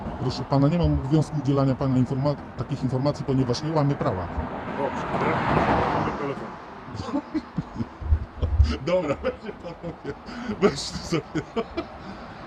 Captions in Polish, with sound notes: Proszę pana, nie mam obowiązku udzielania takich informacji, ponieważ nie łamię prawa. Dobrze, to ja poproszę pana numer telefonu. (Śmiech audytora) Dobra, weźcie panowie, weźcie sobie to...